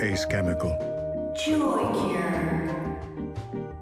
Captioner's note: echoing